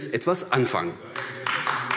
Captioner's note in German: Beifall AfD